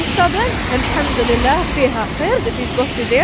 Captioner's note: in Arabic